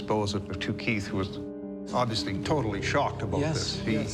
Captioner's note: none